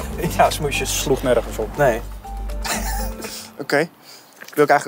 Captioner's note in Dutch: lacht